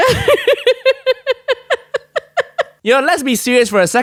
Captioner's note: laughs